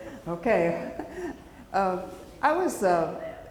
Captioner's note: chuckles